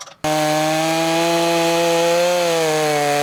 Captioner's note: rattling; buzzing